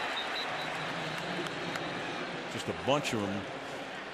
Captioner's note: pa announcement